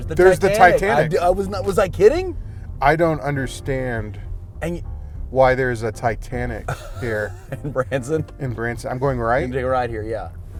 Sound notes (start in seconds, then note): 6.6 laughter